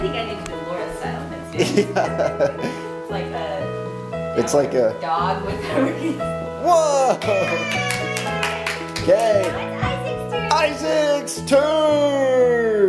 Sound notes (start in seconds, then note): 1.6 laughs; 7.2 applause